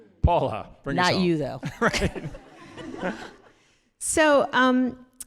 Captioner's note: all laughing